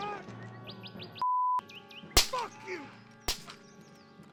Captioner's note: gun fires